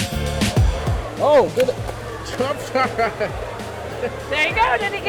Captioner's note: mumbles quickly